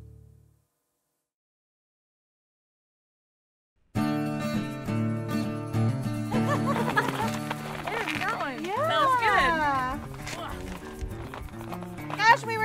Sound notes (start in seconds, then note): 0.2 guitar music; 4.3 girls laughing